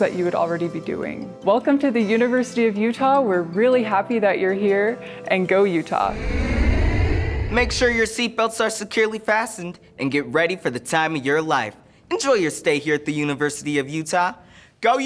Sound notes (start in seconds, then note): 6.0 airplane soaring